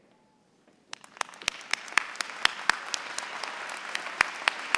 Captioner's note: applause